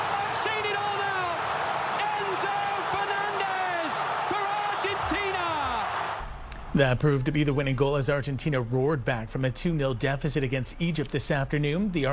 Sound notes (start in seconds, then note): 2.5 applause